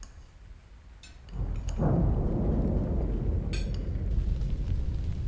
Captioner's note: thunder pounding